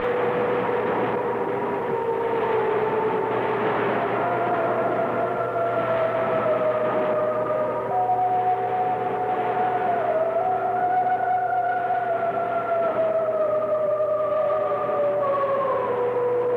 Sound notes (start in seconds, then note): 6.7 eerie humming continues